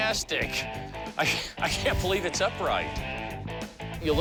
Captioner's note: laughing